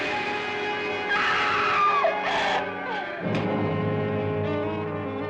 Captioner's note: Sheila screaming